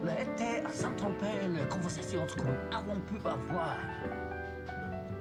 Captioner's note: speaks in foreign language